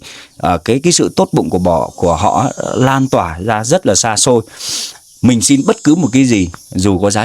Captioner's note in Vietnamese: khịt mũi